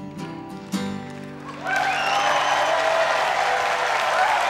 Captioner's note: crowd cheering and clapping